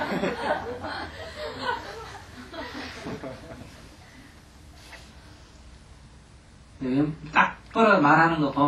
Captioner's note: audience laughter